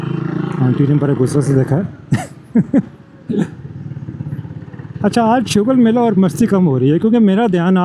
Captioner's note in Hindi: हंसी